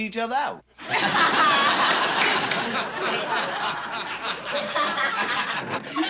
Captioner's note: laughter